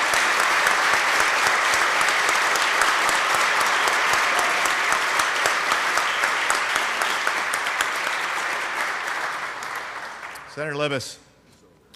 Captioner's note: applause